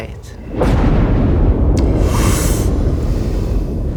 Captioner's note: thunderclap